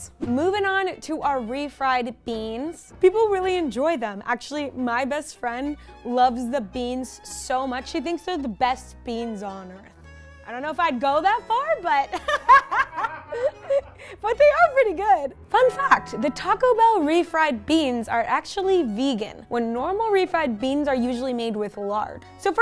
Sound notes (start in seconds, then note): 12.1 laughs; 15.7 bell rings